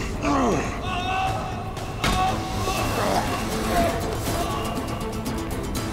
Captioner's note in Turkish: Bağırma sesi